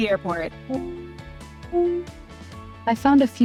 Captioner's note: Alexa bleeping